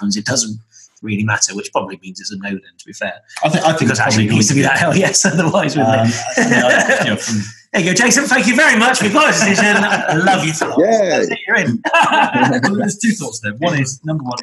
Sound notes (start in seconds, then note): 6.6 laughs; 12.5 laughter